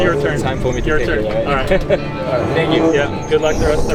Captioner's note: chuckles